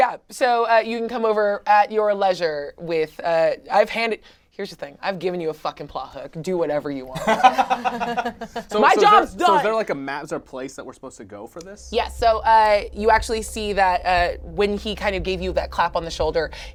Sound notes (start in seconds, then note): 7.1 laughs